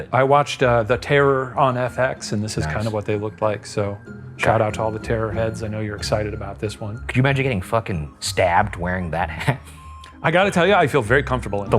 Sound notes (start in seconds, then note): 9.2 chuckles